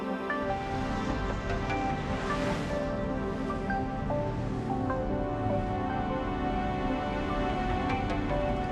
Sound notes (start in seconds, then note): 0.4 engines hum